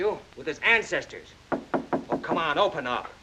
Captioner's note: knocking on door